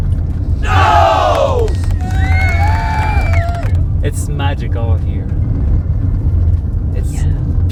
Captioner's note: applause